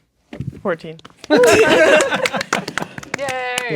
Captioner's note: dice rolling; players laughing and applauding